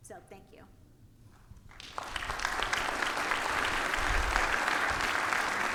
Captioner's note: audience clapping